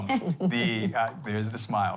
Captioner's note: chuckle